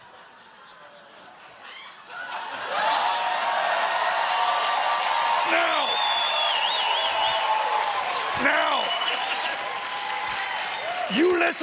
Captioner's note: cheers and applause